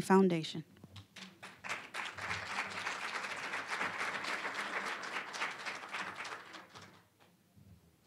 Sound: applause

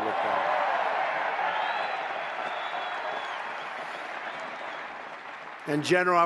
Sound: applause

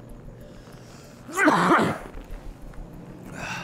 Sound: coughs

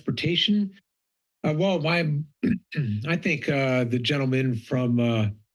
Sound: clears throat

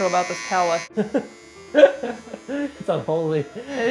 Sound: laughing

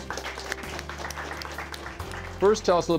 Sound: audience applauding

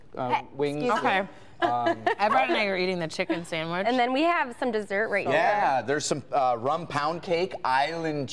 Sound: laughter

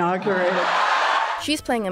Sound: audience cheering

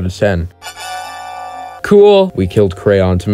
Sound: high pitched tada!~

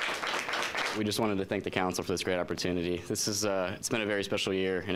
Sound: applause

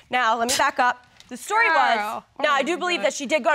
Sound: scoffs

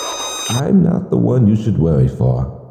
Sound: voice In The Distance

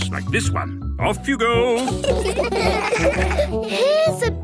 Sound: laughter

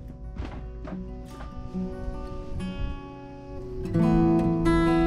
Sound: feet walking against wooden deck; soft music

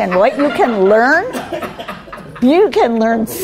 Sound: laughing

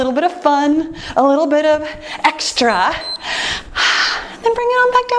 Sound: timer beeps

